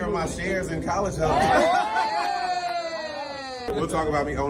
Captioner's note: colleagues laughing